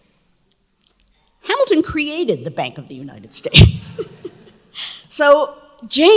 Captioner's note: laughs